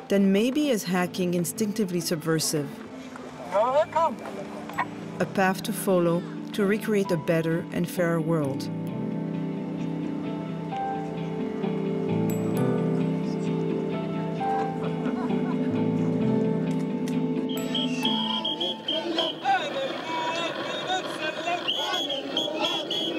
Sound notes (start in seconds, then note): 3.6 murmuring; 10.0 gentle instrumental music; 14.8 laughing; 17.4 whistle blowing; 19.0 chanting in a foreign language